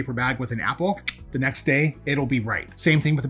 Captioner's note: clicks tongue